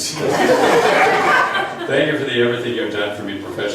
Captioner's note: laughs